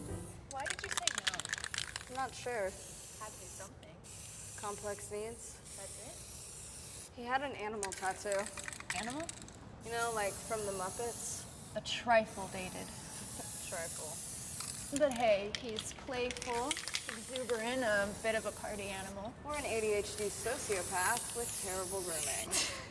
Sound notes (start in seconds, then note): 4.0 spray paint hisses